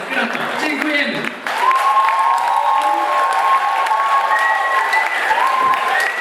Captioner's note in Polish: Aplauz